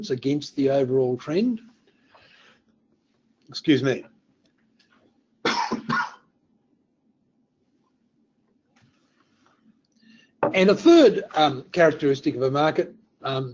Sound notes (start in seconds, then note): 5.4 coughs